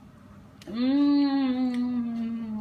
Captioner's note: mouth savory noises